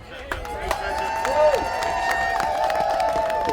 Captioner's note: audience cheering